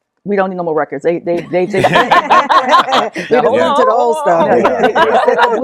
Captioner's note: laughter